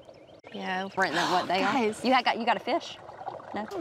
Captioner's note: gasps